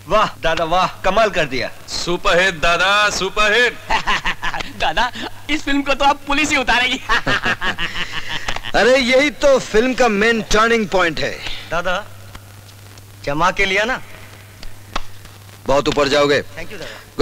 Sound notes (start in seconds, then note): 3.6 laughs; 6.7 laughs